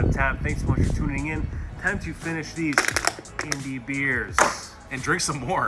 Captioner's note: cans crinkle